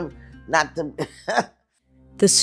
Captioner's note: laughs